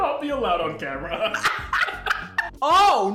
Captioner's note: laughs